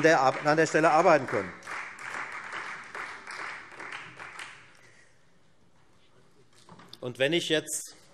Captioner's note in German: Beifall Freie Demokraten und SPD